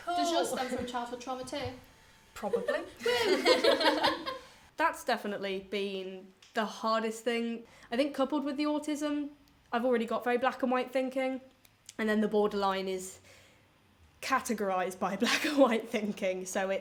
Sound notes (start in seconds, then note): 2.5 both laugh